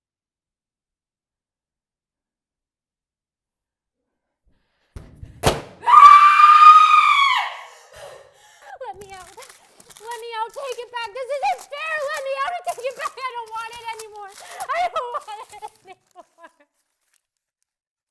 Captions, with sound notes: [She hits the mirror, screams] [gasping, sobbing] Let me out. Let me out! Take it back, this isn't fair! Let me out take it back, I don't want it anymore, I don't want it anymore.